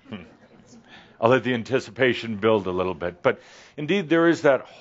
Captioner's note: a few chuckles